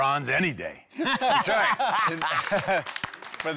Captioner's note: laughter